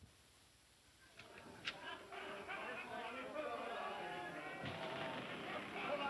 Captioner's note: men shouting and singing